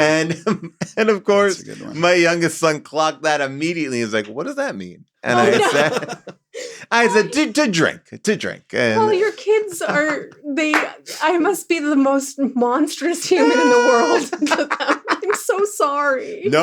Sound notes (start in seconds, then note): 0.0 laughs; 5.2 laughs; 13.2 everybody laughs